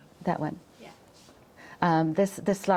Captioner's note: none